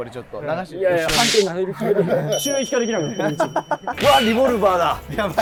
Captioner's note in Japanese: スタッフ：笑い